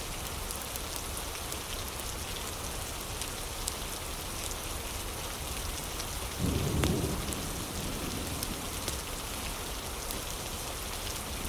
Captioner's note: fire crackling